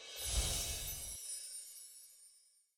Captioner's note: words whoosh